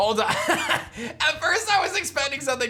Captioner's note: chuckles